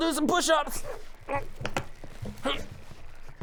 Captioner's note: useless straining noises